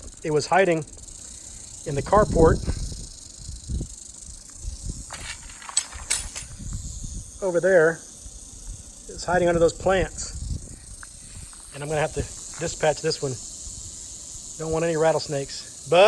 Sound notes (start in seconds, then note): 2.8 rattling becomes more intense